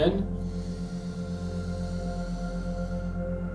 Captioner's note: inhales